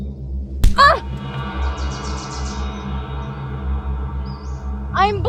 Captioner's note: fist thuds; Janet groans